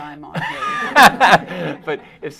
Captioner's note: laughing